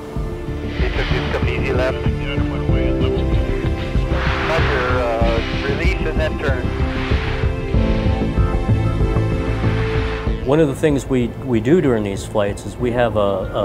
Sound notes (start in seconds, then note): 1.3 radio chatter